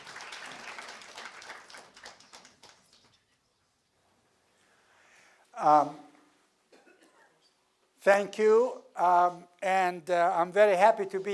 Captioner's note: applause